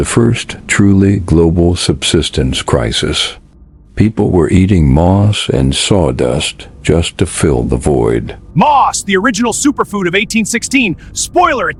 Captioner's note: sarcastic Commentary